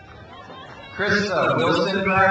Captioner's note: crowd cheers